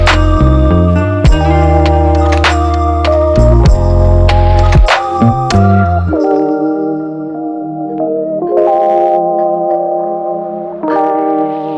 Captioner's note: applause hand